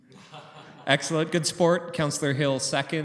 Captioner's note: laughter